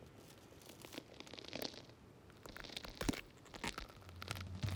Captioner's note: joints crackling